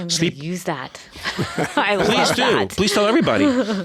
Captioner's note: laughing